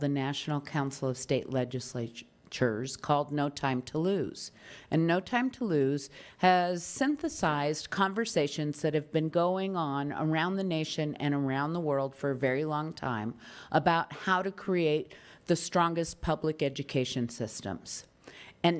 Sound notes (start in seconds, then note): none